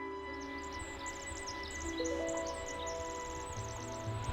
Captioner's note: birds chirping